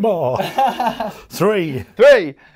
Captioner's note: laughs